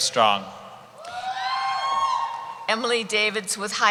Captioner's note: cheering